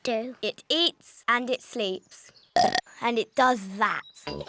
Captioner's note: burps